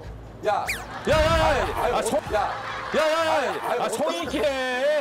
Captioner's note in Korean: 갑자기 휙